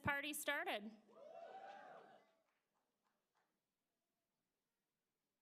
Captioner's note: applause